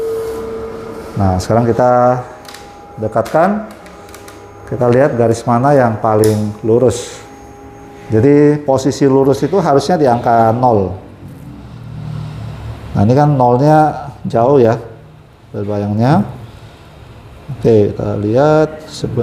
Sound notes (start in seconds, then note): 0.2 printer machine noise; 5.9 tripod noise